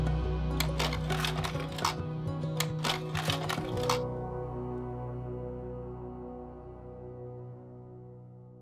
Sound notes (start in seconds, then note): 0.6 projector clicks